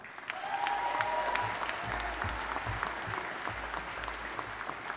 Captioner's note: audience applauding